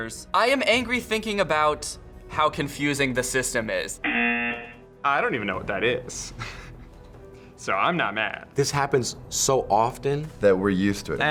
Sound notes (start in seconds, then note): 4.0 buzzer